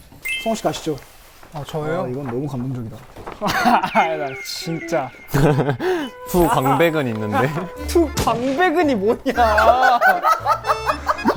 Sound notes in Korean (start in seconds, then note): 5.2 푸핫; 9.1 꺄륵